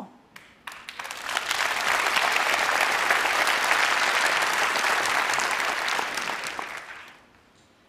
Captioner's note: applause